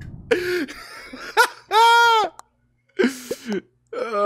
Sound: laughs

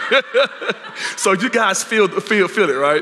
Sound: laughter

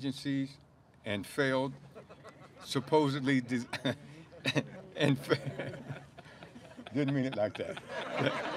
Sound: laughter

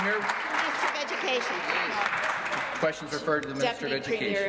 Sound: applause

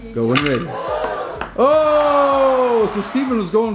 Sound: disappointed crowd; ball clacks

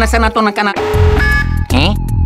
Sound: beeping

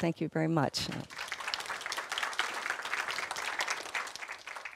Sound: audience applause

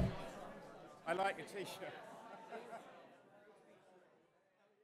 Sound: chuckles

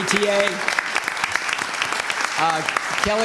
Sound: applause

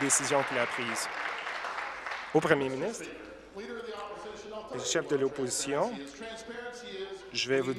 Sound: applause

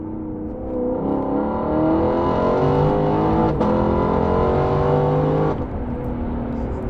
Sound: engine sounds

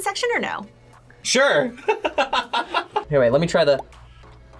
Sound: laughs

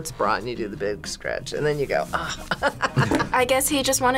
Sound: laughs

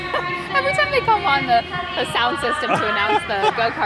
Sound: laughs

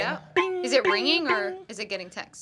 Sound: mimics pinging

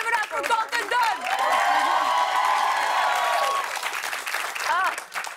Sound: cheers and applause

